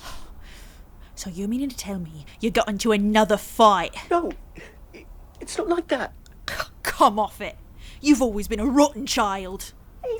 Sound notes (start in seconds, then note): 6.4 scoffs